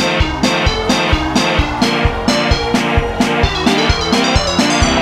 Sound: audience cheering

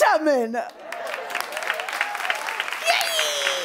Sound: cheering and applause

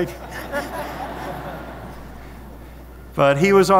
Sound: audience laughing

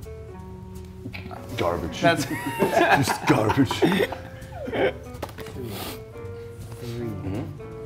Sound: laugh

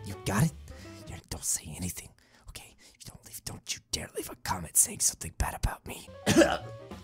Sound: cough

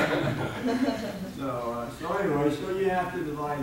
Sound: audience laughing

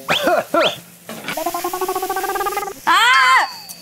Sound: stir frying

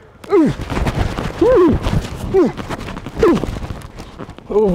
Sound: grunting

